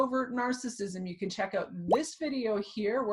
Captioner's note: thumbnail pops